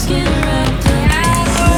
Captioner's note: applause from crew